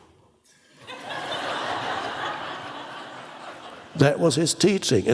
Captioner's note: audience laughs